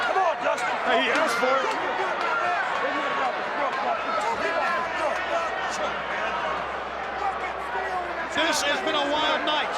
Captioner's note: crowd chatter